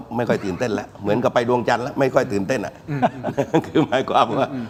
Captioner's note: laughs